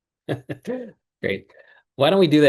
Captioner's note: laughs